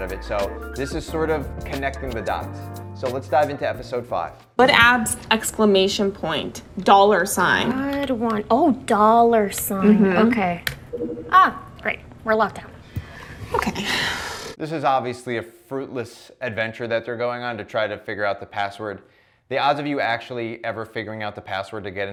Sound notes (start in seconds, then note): 10.9 computer chimes; 13.7 sighs